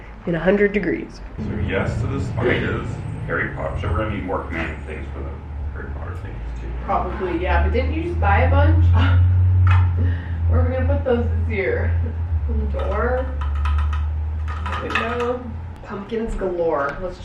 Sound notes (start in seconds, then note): 8.9 laughs